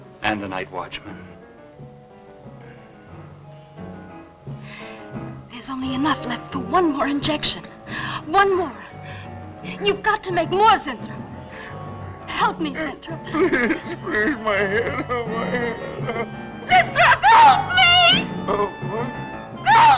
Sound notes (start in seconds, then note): 0.0 ominous music; 15.5 crying